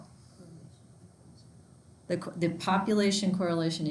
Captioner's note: students murmuring